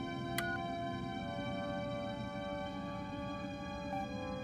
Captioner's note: button beeps